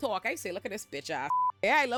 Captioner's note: beep